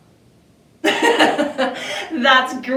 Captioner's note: laughs